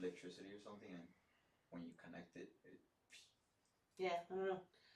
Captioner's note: swish